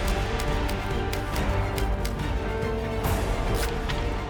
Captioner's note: typewriter clicking